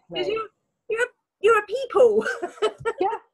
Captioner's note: laughs